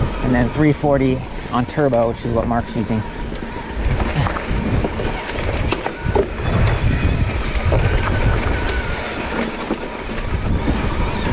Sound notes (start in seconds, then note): 4.5 bike humming; 4.5 dirt rustling